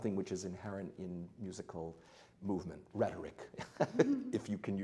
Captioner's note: laughs lightly